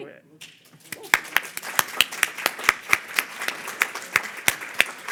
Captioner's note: audience applauding